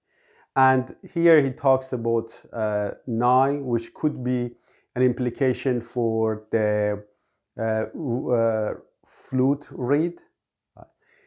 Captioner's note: in Persian